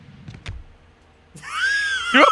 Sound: cow wheeze

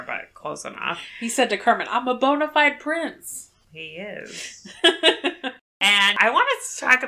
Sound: laughs

